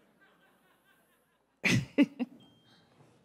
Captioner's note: crowd laughs; laughs